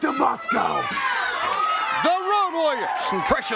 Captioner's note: crowd cheering